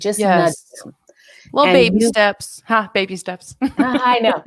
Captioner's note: laughs